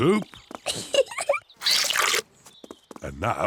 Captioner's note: giggles